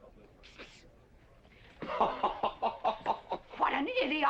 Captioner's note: G.W. laughing